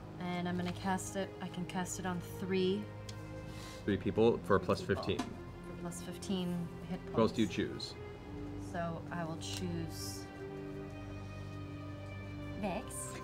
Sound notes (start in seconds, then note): none